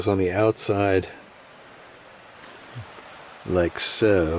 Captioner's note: wind whistling